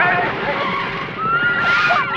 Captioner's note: screaming